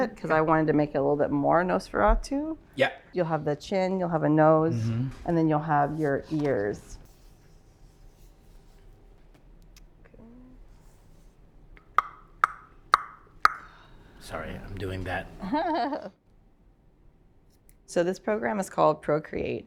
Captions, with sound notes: because I wanted to make it a little bit more Nosferatu. -Yep! -You'll have the chin, you'll have a nose, and then you'll have your ears. ( tongue popping ) -Sorry I'm doing that. ( giggling ) -So this program is called Procreate,